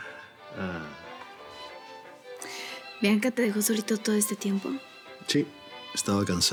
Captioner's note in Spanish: Él suspira